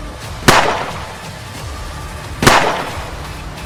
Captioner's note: gun shoots